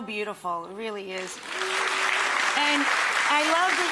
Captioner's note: audience applauds